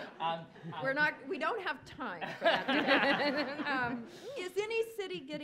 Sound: laughs

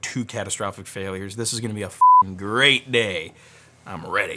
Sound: beep

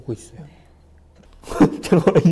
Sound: hehehe

